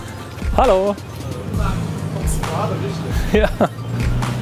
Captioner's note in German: lacht